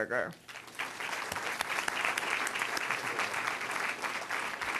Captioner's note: audience clapping